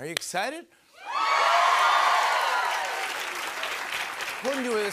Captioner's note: cheers and applause